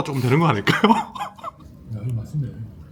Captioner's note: chuckles